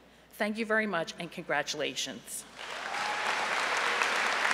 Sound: applause

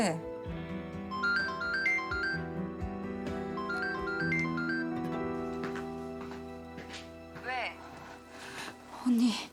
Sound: cell phone ringing sound

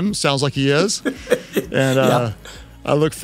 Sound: laughs

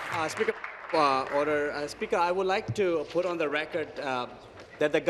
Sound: applause

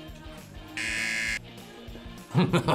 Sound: buzzer; laughs

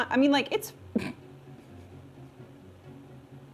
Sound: snorts

